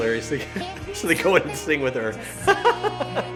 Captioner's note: laughs